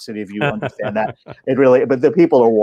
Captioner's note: laughing